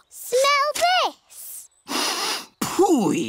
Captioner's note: sniffs